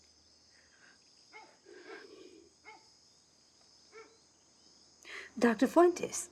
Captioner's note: dog barking softly